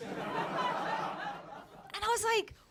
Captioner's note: audience laughing